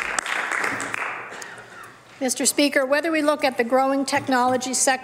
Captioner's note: some Applause